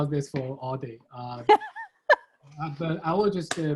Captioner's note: laughing